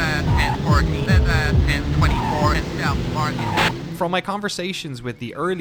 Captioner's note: police radio chatter